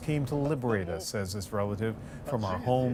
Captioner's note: speaking alternate language